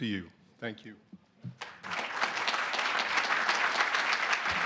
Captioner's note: applause